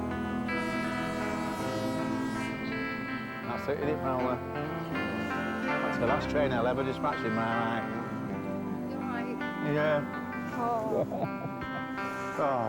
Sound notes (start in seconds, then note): 0.0 horn blaring; 10.8 chuckles